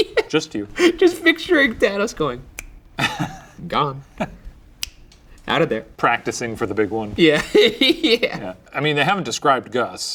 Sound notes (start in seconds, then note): 0.0 laughing; 2.5 snapping fingers; 4.8 snapping; 7.2 laughing